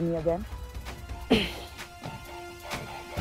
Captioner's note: Sakshi sighs